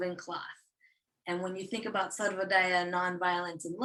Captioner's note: non-english speech